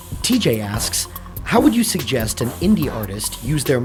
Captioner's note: voiceover